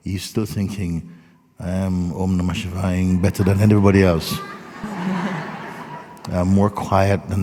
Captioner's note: laughter